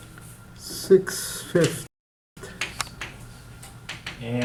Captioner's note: voiceover